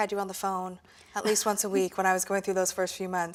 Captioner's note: laughs